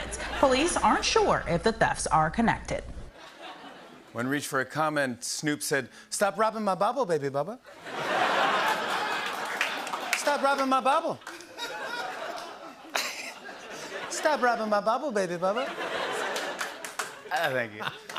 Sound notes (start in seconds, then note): 7.7 laughter